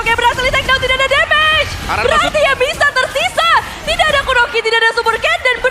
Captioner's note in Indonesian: tertawa